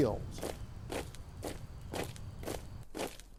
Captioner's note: feet stomping